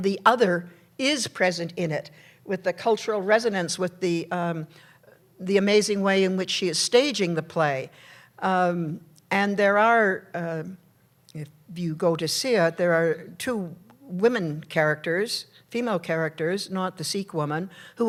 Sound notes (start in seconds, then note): none